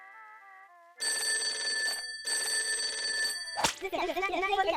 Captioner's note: the counter phone rings